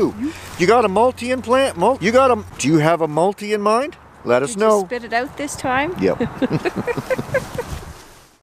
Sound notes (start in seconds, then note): 6.0 chuckles